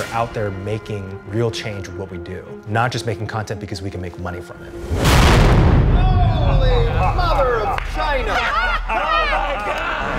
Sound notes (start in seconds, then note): 4.8 explosion; 8.4 laughs